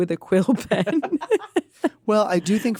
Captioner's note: laughter